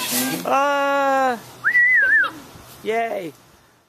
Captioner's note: whistling